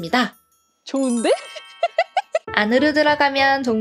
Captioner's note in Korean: 웃음소리